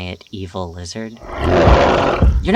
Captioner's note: Azazel angry noise